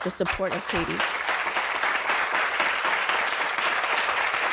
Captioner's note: applause